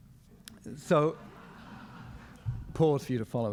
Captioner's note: crowd laughs